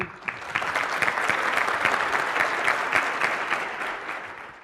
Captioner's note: audience applauding